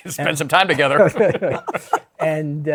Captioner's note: chuckles